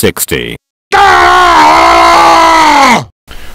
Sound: heavy Screaming

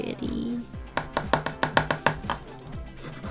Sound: more obnoxious tapping

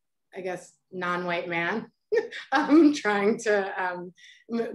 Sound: chuckles

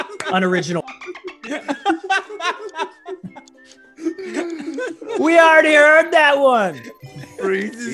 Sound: laugh

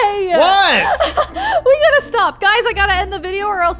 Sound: laughing

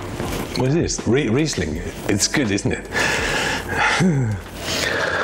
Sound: chuckles

